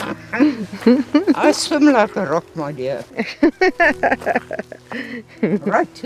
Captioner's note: laugh; laugh